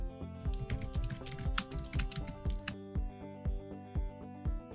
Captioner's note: keyboard keys clatter